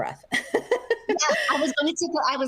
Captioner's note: laughing